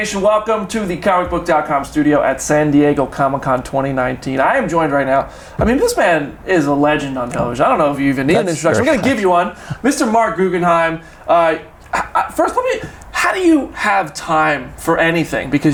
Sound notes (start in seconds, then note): 8.2 chuckles